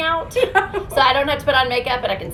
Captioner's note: laughs